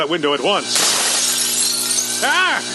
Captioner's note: window crashing